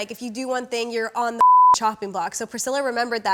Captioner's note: beep